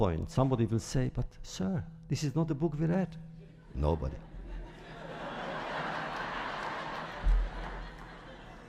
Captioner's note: laughter